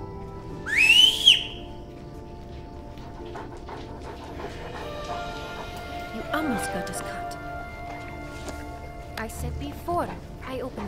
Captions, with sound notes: (dog panting) You almost got us caught. I said before I opened it, did you not hear me coughing?